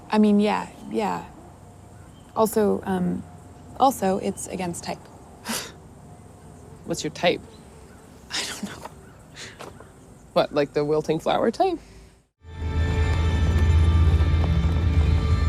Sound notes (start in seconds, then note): 7.4 scoffs; 8.2 laughs; 12.4 dramatic music